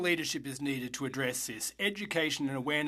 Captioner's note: speaking French